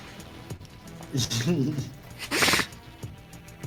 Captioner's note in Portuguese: Risadas